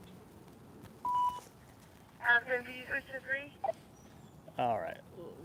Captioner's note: radio static